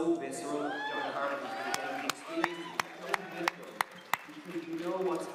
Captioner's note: applause